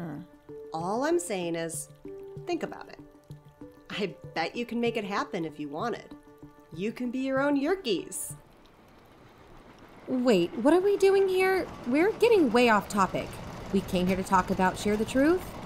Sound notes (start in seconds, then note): 8.3 music stops; 8.3 train passes, room shakes